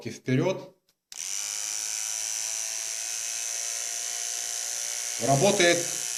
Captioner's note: mechanical sound of trimmer operation